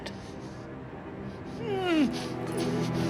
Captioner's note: whimpering